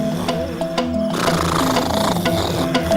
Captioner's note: man snoring